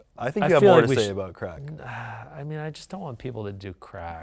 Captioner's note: none